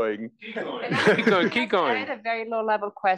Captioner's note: laugh